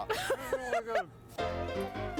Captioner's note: laughing; playful piano melody playing